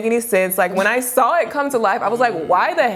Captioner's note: chuckles